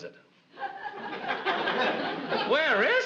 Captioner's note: audience laughs